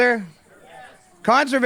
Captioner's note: crowd